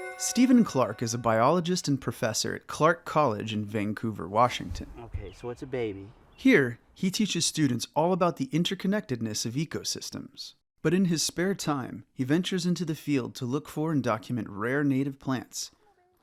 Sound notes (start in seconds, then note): 5.0 birds chirping